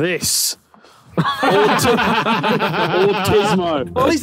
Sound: Vik and Tobi laughing

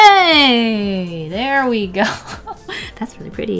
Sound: laughs

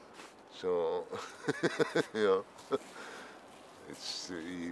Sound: laughing

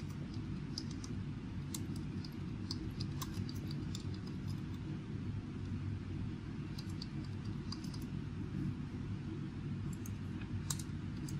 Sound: typing

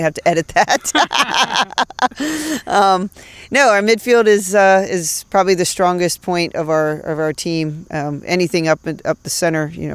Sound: laughs

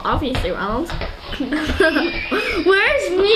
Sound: laughing

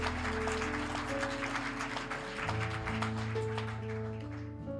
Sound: applause

